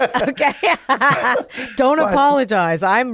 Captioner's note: both laughing